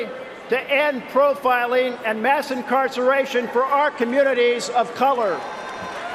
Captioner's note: cheering and applause